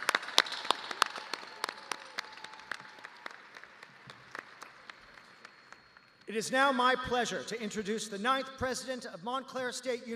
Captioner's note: applause